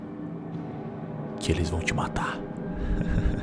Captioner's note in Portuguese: sussurrando